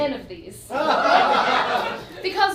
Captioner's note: audience laughs